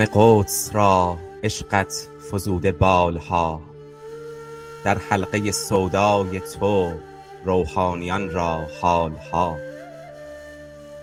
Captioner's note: persian recitation with music